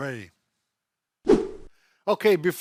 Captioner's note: air whoosh